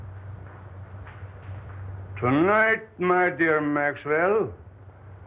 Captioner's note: with thick German accent